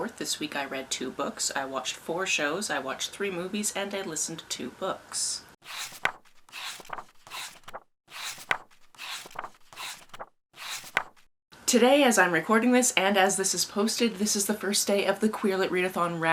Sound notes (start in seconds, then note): 5.6 pages turning